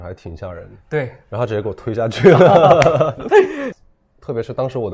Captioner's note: laughs